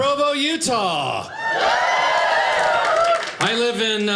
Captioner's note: audience applauding